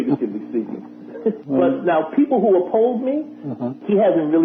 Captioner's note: laughter